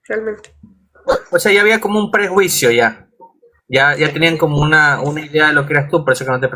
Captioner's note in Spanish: carraspeo